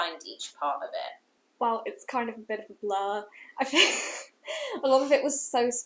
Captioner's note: laughter